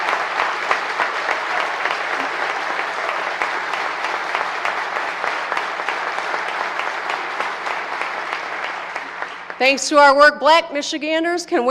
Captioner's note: applause